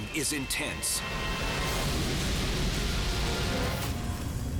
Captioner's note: fire roaring